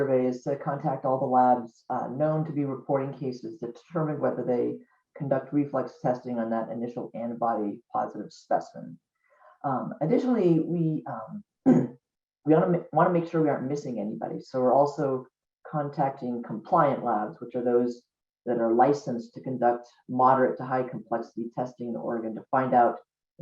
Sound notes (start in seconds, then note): 11.6 clears throat